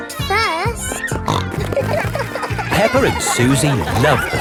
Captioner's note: snorting